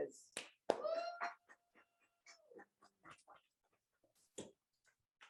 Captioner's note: audience cheers